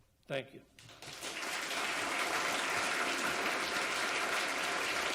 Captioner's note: audience applauds